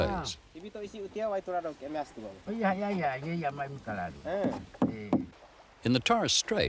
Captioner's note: man talking